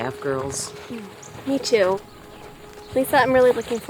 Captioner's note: sighs